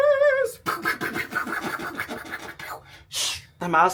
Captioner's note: mimics fireworks popping